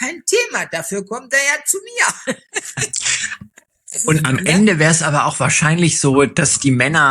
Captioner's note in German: gelächter